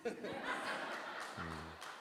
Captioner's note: audience laughing